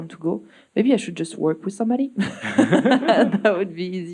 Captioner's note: chuckles